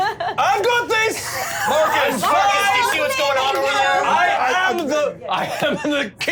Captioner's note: overlapping chatter; laughing